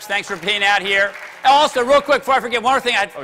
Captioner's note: applause